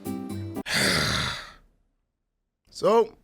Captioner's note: sigh